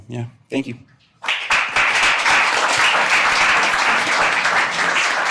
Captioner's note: audience applauding